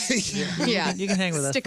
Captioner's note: laughing